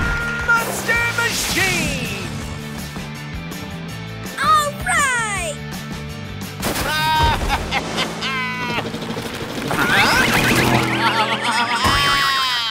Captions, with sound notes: ...Monster Machine! Alright! [laughing] [confused bleating] [bleating]